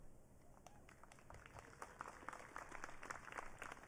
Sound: audience clapping

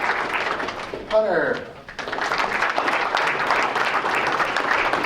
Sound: applause

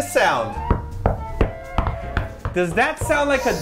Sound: knocks on bed

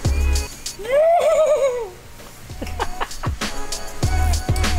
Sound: laughing; imitates comedic horn sound

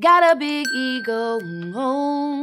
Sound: ping

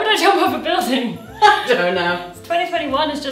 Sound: laughs

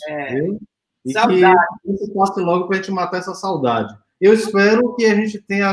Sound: speaks portuguese

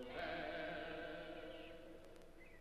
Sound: birds chirping

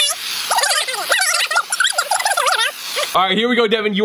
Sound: tape squealing in reverse

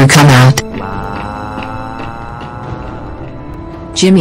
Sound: Jimmy Cries

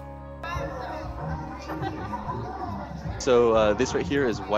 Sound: student chattering

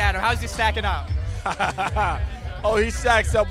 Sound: laughs

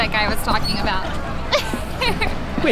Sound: emma laughs

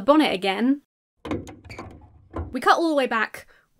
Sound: metal thuds; sneakers squeak

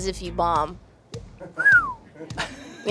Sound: whistles

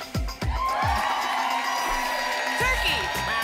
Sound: applause and cheering

